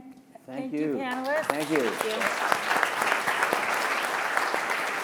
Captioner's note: audience applauding